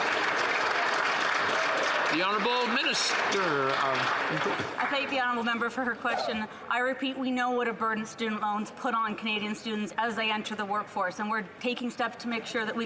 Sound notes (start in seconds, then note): 2.5 some Applause